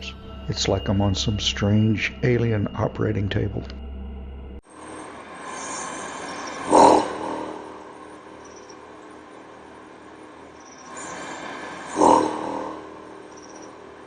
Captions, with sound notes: It's like I'm on some strange, alien operating table [ Very deep, loud buzzing sound ] Buzzzzz